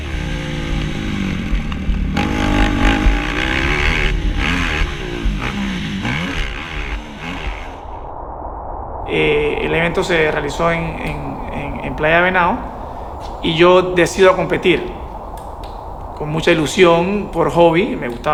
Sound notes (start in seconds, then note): 0.0 quad engine revving; 0.1 tense music; 9.7 speaking Spanish